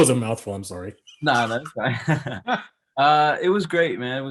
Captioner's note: laughs; chuckles